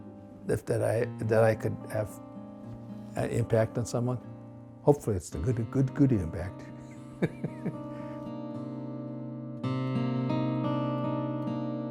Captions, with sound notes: if that I could have impact on someone. Hopefully it's the good impact. (laughs)